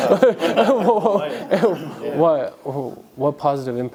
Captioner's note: laughter